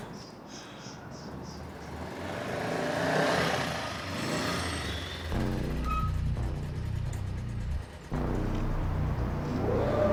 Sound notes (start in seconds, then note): 2.2 motorbike engine whirring; 5.3 dramatic music